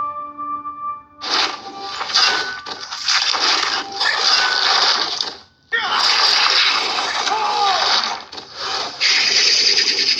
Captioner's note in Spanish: sonidos del juego